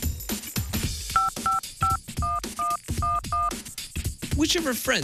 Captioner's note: high- and low-pitched beeping